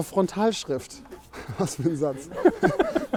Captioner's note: Lacht